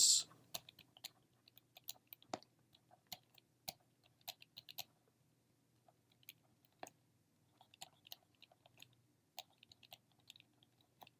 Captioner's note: typing